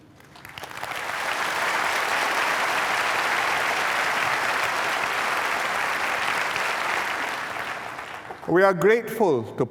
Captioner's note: applause